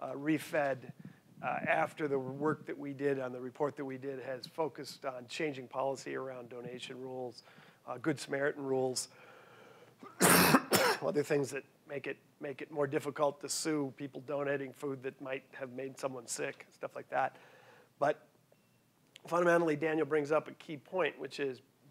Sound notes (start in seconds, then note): 10.0 coughing